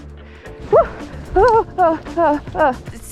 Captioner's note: slipping noises